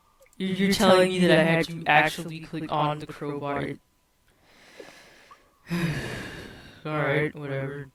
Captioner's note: sigh